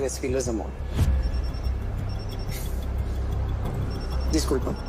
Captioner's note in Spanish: Suena el celular